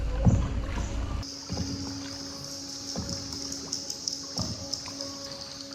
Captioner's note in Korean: 초입부터 들리는 박쥐 소리